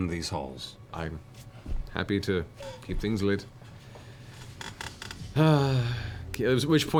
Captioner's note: sighs